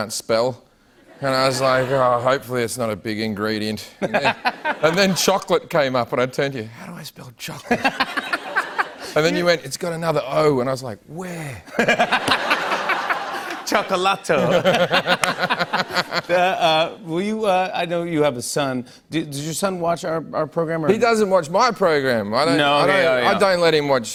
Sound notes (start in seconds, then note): 14.3 laughter